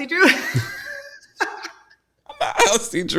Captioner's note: both laughing